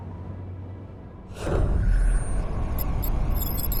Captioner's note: wind howling; electronic whirring